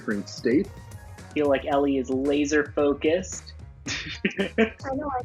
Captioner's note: laughing